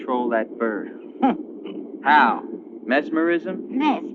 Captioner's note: chuckling